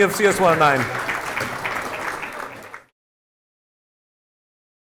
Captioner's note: applause